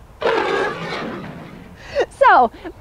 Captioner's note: roars happily